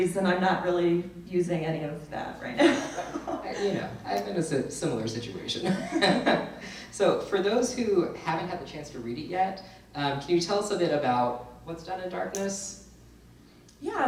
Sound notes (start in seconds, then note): 2.6 laughs; 5.6 laughs